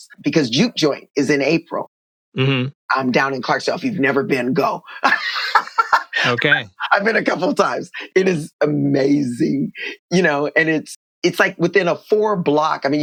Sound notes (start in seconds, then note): 4.8 laughter